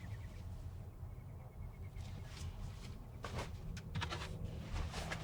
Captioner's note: clothes rustling